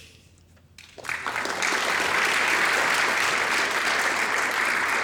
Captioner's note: audience applauds